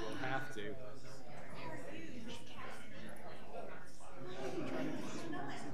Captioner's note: people chattering